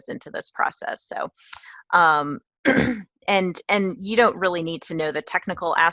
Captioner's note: cough